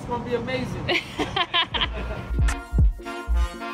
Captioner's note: laughing; upbeat music